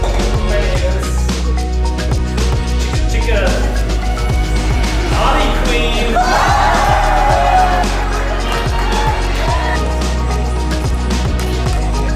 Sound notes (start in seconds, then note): 5.2 crowd cheering